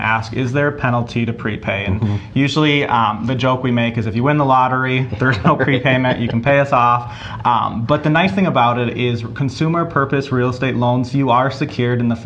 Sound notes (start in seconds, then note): 5.0 laughs